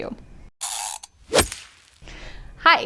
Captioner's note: whoosh